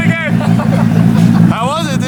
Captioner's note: laughter